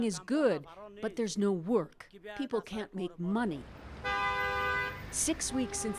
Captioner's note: speaking Foreign Language